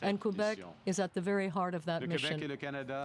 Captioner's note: speaking French